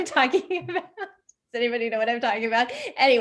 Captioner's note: chuckles